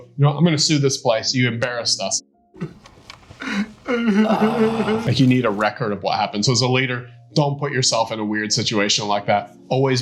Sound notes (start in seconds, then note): 3.4 crying